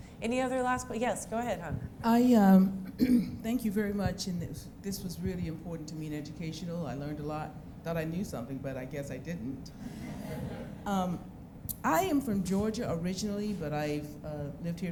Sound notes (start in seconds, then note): 10.0 laughs